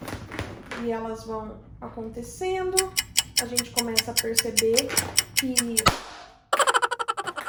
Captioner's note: alarm